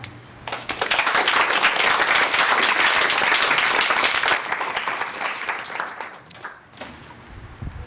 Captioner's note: applause